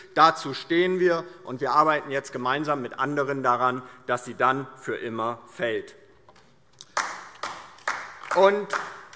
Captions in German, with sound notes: Dazu stehen wir. Wir arbeiten jetzt gemeinsam mit anderen daran, dass sie für immer fällt. [Beifall DIE LINKE]